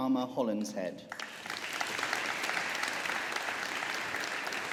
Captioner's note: audience applauding